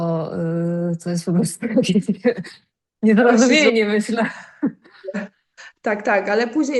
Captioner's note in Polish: śmiech